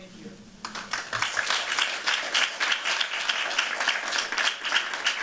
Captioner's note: applause